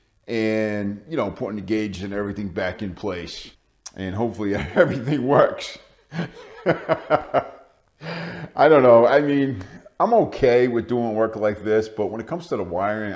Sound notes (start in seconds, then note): 6.1 laughing